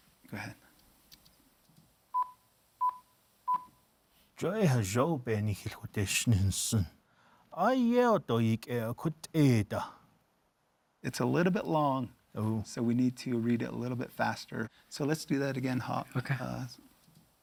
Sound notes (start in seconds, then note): 2.1 beeping; 4.7 speaking Navajo